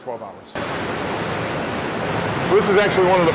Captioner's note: factory noises